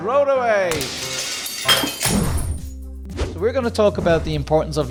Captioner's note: glass breaks